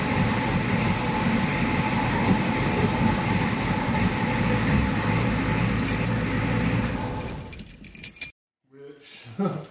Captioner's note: IDI diesel cranks & idles